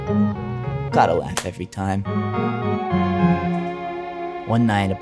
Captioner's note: hands slapping